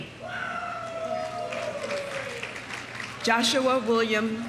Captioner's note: audience cheering; audience applauding